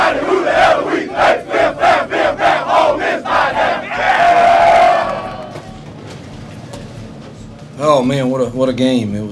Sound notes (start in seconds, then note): 3.7 yelling